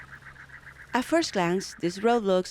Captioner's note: voiceover